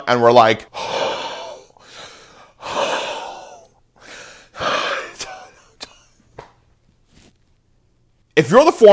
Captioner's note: dying noises